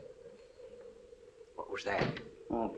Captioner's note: thuds